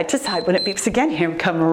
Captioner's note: timer beeps